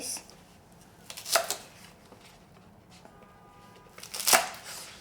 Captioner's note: knife slicing